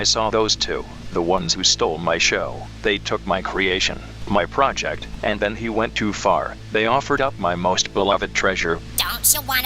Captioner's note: announcer narrating